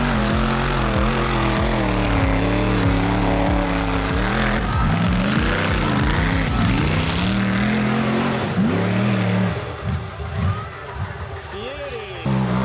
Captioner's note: engine revving